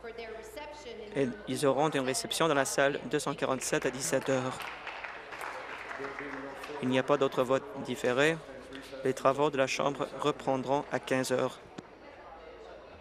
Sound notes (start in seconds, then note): 8.0 applause